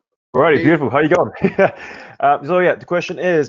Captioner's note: laughs